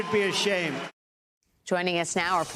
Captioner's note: applause